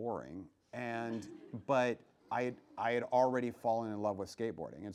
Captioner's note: laughs